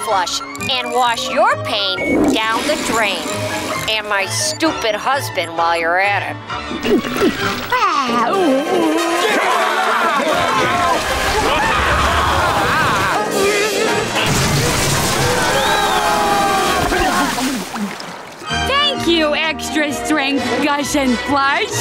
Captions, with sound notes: and wash your pain down the drain, and my stupid husband while you're at it. [sighing] [yelling] [screaming] [yelling] Thank you extra strength Gush and Flush.